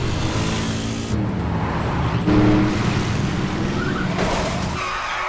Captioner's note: engines revving; truck thudding